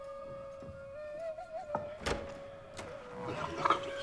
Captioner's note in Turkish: Kapı açılma sesi